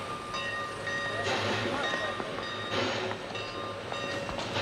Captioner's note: bell dinging; footsteps tapping